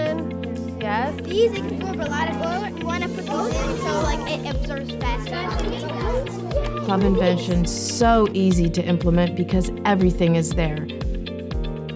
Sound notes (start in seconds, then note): 1.8 children talking